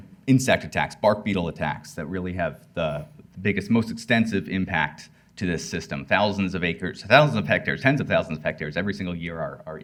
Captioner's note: none